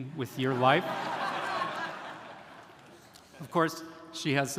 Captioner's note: audience laughing